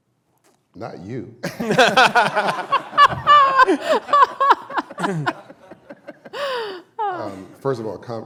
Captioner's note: laughter